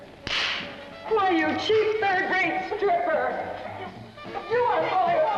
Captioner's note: crack; women bickering; jazz music plays